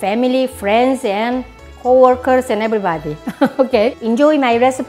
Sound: laughs

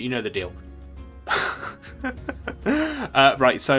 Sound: laughs

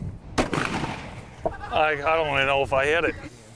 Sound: gun shot

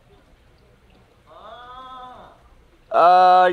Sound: man exclaims

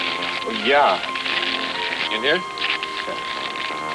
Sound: paper crinkling

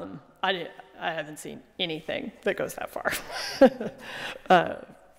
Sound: laughing

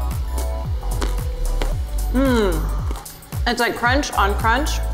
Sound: crunching

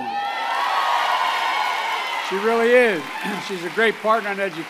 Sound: applause

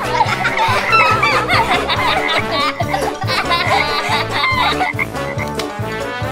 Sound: laughs

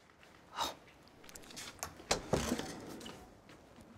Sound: Mrs. Beasley scoffs

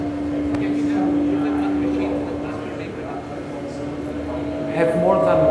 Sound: audience speaks softly

